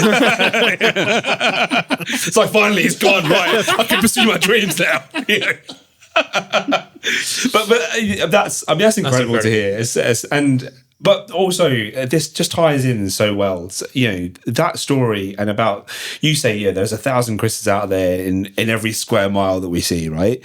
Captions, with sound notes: (all laughing) "Finally, he's gone, right?" "I can pursue my dreams now." (all laughing) But that's incredible to hear. And, but also this just ties in so well. That story and about, you say, yeah, there's a thousand Chris's out there in every square mile that we see, right?